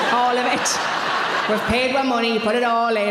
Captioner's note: audience laughing